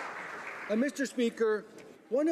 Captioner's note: applause